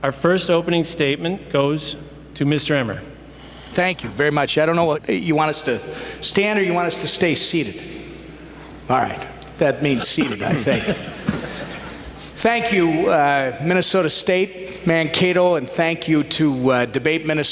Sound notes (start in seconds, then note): 12.1 laughter